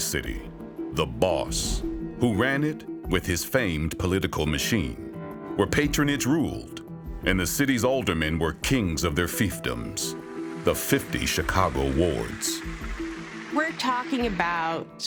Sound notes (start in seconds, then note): 11.5 graphics whirring; 11.5 pensive music